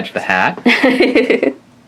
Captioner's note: laughs